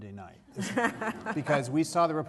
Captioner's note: laughter